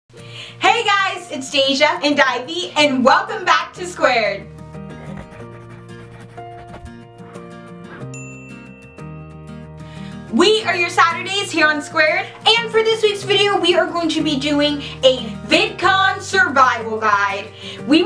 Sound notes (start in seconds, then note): 4.8 pencil scratching; 4.9 light acoustic music; 8.1 bell dings